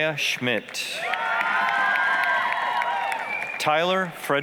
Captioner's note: applause, cheering